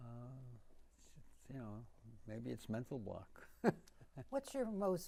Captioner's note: laughing